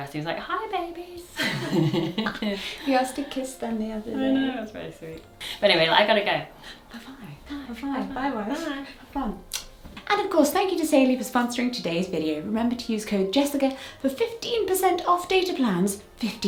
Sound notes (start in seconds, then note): 1.4 both laugh; 9.5 kiss smacks